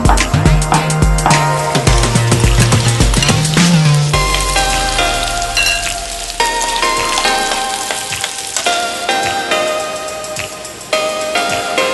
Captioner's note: stir-fry zucchini: sizzling sound from the hot pan